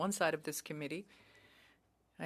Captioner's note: speaking French